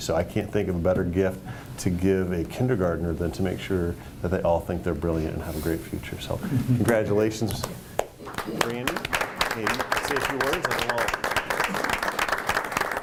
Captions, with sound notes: So I can't think of a better gift to give a Kindergartner than to make sure that they all think they are brilliant and have a great future. So, congratulations Brandi. (applause) Say a few words and we'll all...